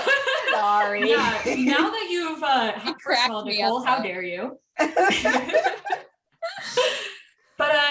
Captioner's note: guilty laughter